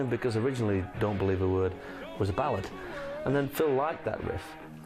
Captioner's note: humming